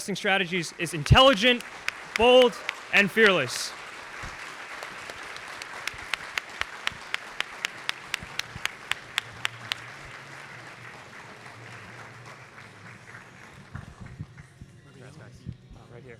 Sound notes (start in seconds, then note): 3.9 audience applauding; 13.6 soft background music